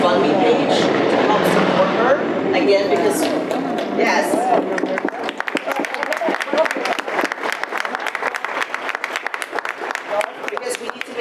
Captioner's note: audience applause